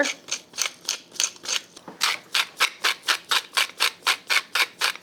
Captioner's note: salt and pepper grinds